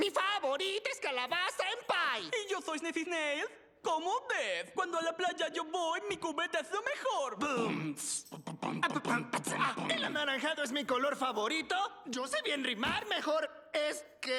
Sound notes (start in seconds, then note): 8.2 beat boxing